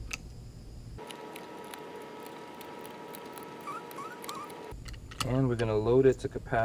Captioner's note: clicking; fast clicking; squeaking